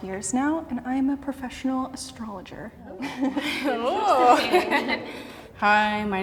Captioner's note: laughing